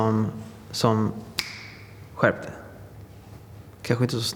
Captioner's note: snaps his fingers